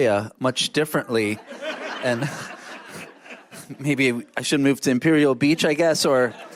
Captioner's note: laughter